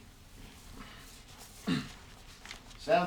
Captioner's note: clears throat